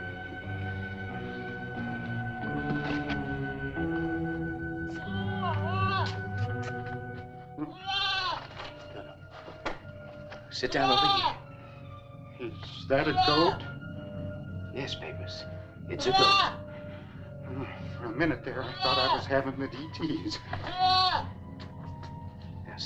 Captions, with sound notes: (tense music) (goat bleating) No, no. Sit down over here. - Is that a goat? - Yes, Papers, it's a goat. - Hm, for a minute there, I thought I was havin' the DTs.